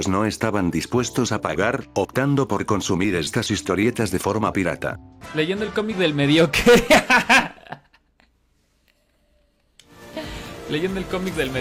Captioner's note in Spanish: risas